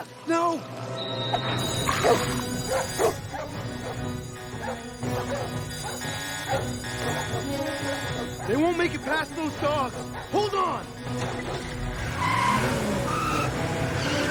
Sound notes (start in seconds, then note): 0.1 alarm sounding; 2.3 dogs barking; 11.0 tires squealing